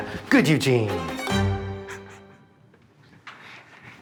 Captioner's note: laughs